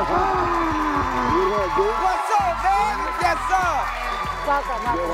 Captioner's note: cheers and applause